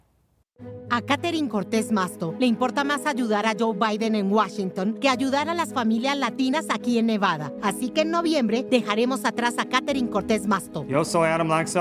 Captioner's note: speaking Spanish